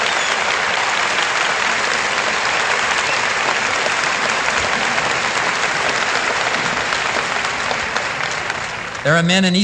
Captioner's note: applause